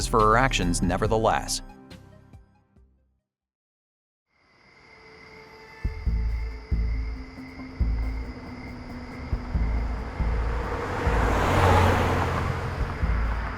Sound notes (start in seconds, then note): 3.0 music stops; 4.9 crickets; 5.9 musical beats; 9.9 passing car engine; 10.9 car engine